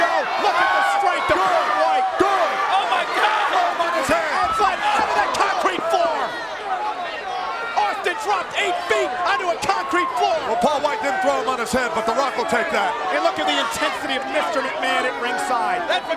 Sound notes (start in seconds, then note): 4.3 overlapping chatter